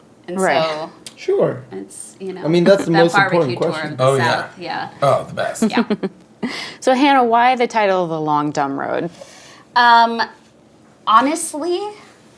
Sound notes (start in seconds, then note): 5.0 laughing